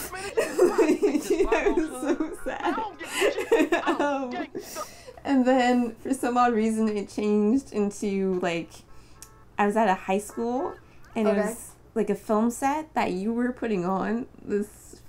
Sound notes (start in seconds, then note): 0.0 laughing; 0.1 laughter